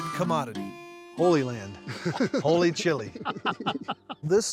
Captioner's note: laughs